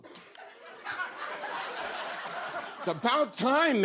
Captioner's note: laughter